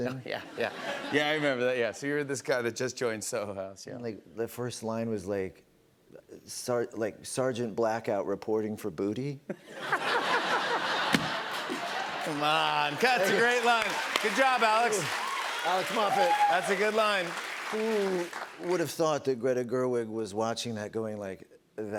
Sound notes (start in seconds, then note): 9.5 laughter